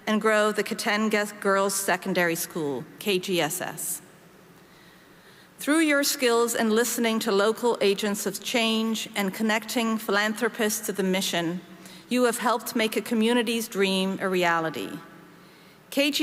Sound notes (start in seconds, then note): none